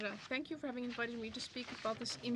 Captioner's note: speaking french